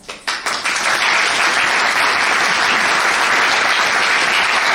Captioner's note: audience applauds